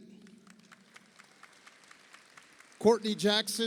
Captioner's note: audience applauds